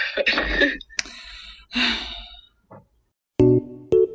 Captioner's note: heavy sigh; music playing